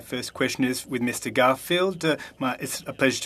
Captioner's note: speaking French